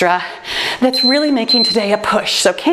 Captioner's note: timer beeps